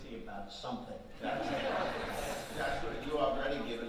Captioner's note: audience laughing